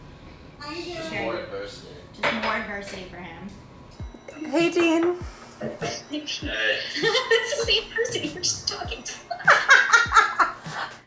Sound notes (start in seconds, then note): 3.7 upbeat music; 6.2 wood knocking; 6.5 laughing; 6.5 laughs; 8.9 both laugh